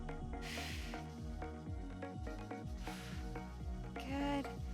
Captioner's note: upbeat lively music; exhaling deeply